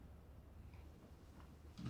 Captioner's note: none